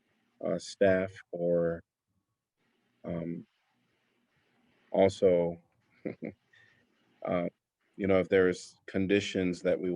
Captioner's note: laughter